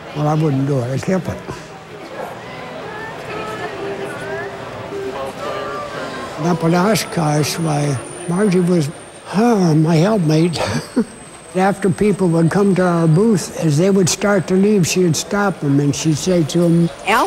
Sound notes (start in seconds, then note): 9.0 sighs